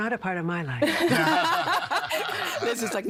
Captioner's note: all laughing